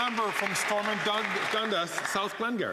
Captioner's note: some Applause